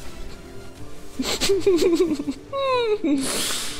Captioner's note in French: Rire